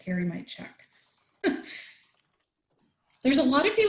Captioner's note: chuckles